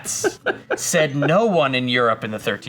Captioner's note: laughs